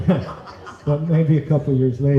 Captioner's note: laughter